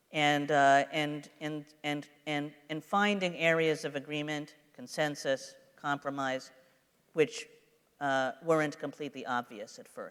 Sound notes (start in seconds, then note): none